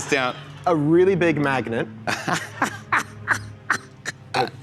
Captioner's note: laughter